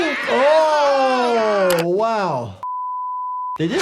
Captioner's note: group groans